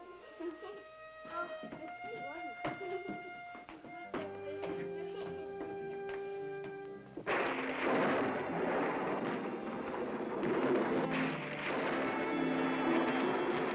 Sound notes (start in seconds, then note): 0.0 children giggle; 0.0 ominous music; 7.2 loud thunder; 7.3 ominous music; 12.9 thunder rumbles